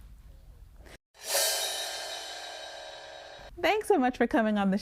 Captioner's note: gong ringing